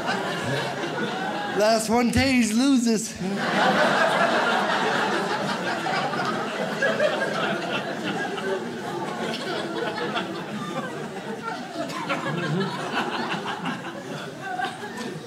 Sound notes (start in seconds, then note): 0.0 audience laughs; 3.0 audience laughs